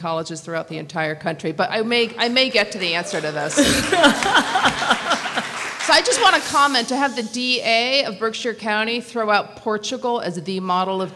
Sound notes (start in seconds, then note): 2.6 laughter